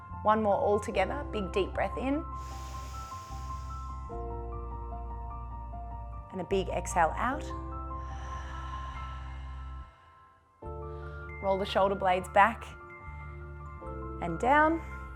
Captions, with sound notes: One more, all together, big, deep breath in. (inhales) And a big exhale out. (exhales) Roll the shoulder blades back and down.